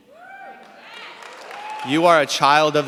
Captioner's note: cheers, applause